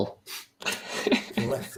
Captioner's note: chuckling